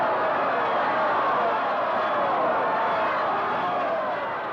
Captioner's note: crowd shouting angrily